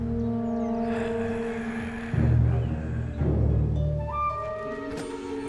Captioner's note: zombie walter growling